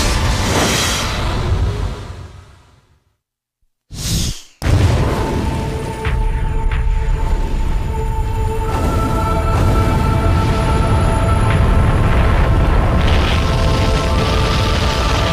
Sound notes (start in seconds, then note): 4.6 explosion